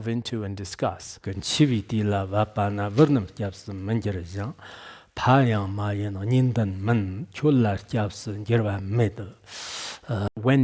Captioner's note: giving oral transmission in Tibetan